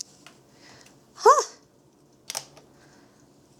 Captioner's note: pencil clatters